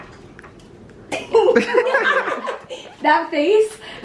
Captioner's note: laughter